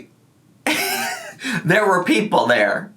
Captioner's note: laughing